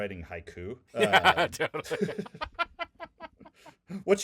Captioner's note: laughing